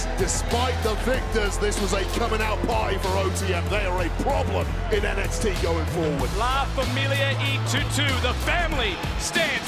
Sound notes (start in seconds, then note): 6.4 spanish language